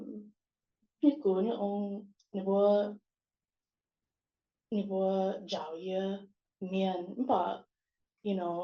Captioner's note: non-english